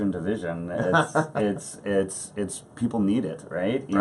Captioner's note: laughs